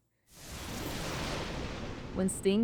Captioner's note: intense swoosh